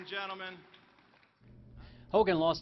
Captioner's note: applause